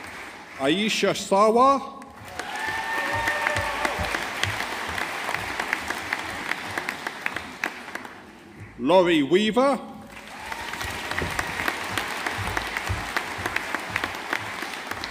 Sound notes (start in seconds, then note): 2.1 audience applauding; 10.1 audience applauding